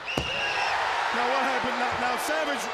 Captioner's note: audience cheering